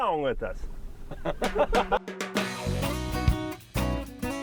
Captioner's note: laughing